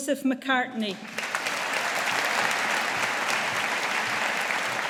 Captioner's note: audience applauding